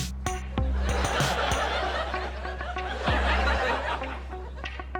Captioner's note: audience laughs